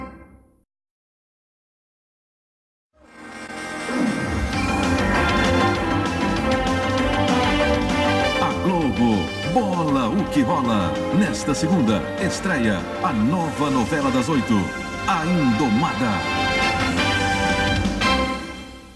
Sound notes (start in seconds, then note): 8.0 male announcer speaking Portuguese